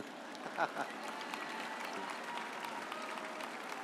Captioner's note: audience applauds